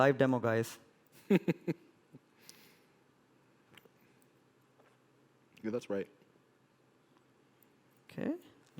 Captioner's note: laughs